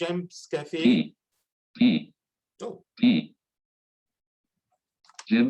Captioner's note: automated Voice